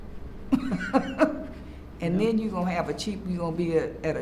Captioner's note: laughs